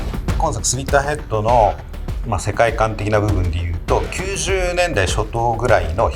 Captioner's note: speaking Japanese